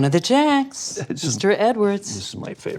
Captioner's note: laughing